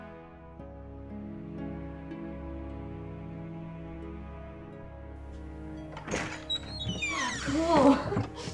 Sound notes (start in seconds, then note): 5.7 door creaking